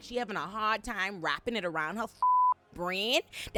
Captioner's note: beep